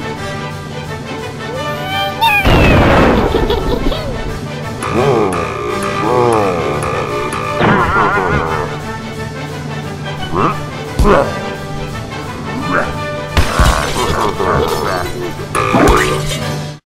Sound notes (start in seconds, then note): 2.4 explosion; 13.3 crash sound and evil laughs